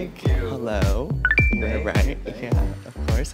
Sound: electronic beep

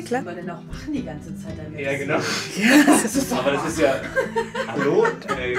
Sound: laughter

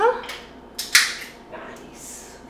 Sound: bottle opening

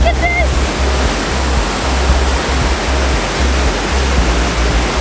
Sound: water rushes

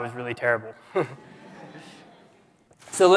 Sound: laughter

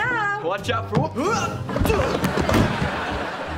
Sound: grunting

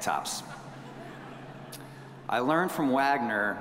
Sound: audience chuckling

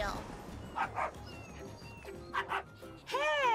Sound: Blacky barking

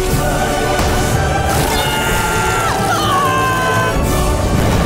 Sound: screaming

